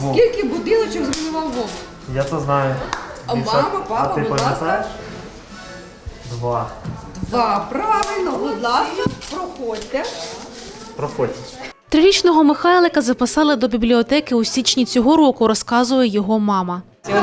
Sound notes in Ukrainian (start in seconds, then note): 2.8 Плеск долонь